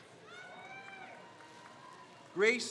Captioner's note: crowd cheers